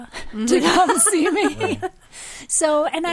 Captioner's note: group laughing